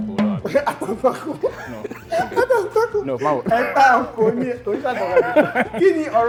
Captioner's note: laughs